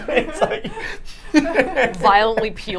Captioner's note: laughter